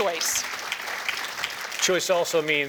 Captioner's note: applause